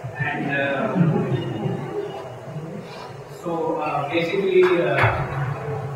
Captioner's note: Snickering & Silent Applause to obvious reference to Administration characters